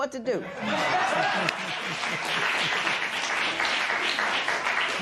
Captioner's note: applause